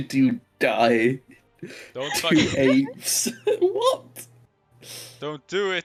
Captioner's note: haha